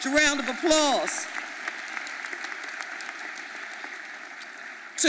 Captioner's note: audience applauding